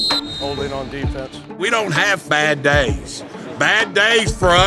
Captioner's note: whistles